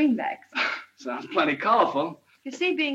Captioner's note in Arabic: يضحك